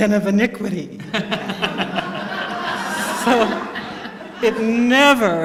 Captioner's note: laughter